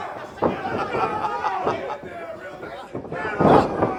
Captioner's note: laughs